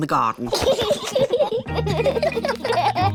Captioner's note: both laughing